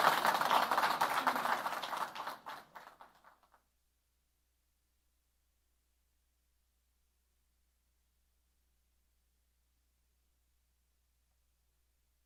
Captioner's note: applause